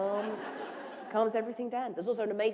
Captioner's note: laughter